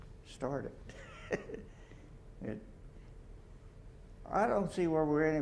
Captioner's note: chuckles